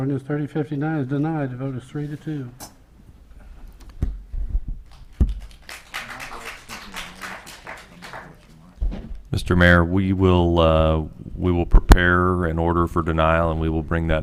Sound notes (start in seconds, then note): 4.8 audience claps